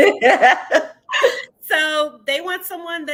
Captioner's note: both laughing